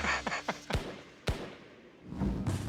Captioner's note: laughs; gunshots